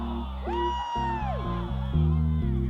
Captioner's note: cheering